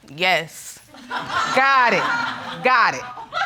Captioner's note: audience laughing